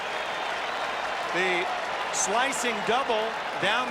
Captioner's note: cheering and Applause